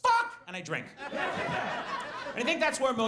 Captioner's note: audience laughs